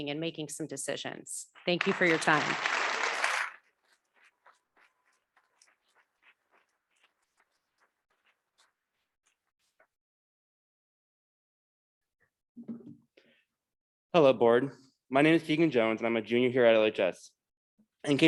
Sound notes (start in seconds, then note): 1.6 audience clapping